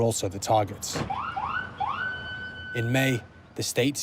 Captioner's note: siren blares